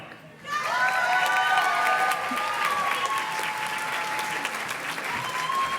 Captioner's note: audience cheers and claps